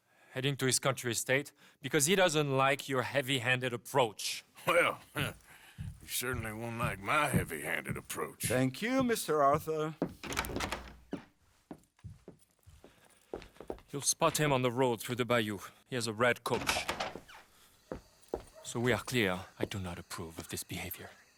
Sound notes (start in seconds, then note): 5.5 chuckles